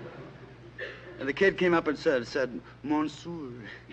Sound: french

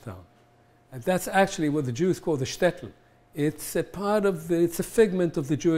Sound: hebrew

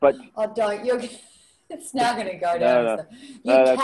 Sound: laughs

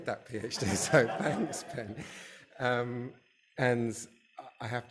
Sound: audience laughing

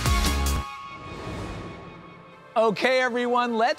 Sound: air whooshing

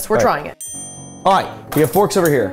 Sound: bell dings; dramatic music

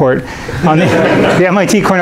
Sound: students laughing

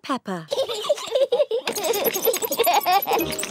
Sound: both giggling

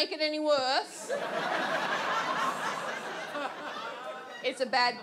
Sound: audience laughs

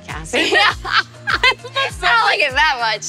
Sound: both laugh

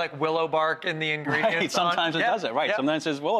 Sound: laughs

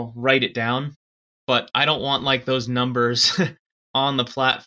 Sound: chuckles

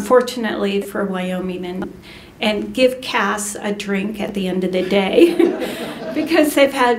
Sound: laughter

